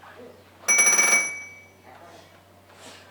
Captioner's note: bell rings